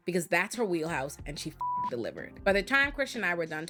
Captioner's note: beep